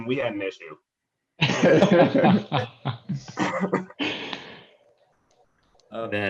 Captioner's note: laughter